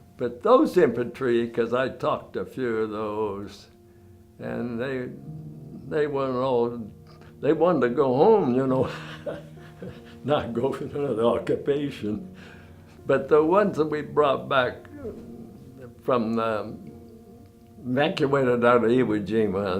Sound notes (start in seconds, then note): 8.8 laughs